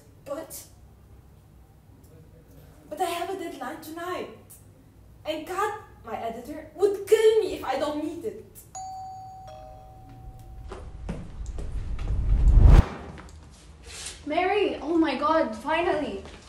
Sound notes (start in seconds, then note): 8.7 doorbell rings; 10.9 whooshes